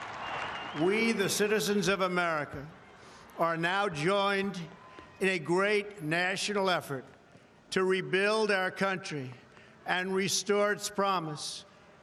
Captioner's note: applause; cheering